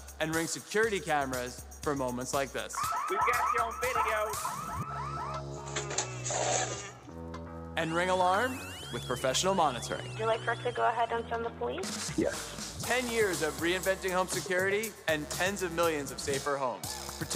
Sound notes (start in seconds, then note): 2.7 alarm blaring; 6.7 vehicle door clicks